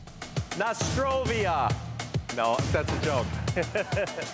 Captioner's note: laughs